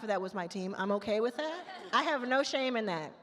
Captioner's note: attendees laugh